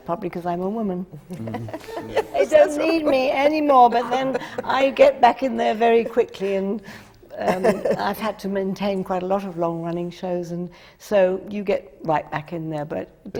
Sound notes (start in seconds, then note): 1.3 laughs